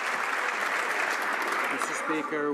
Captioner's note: some Applause